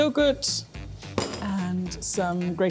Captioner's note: bowl clinks